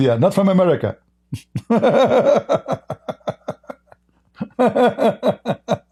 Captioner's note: Ketawa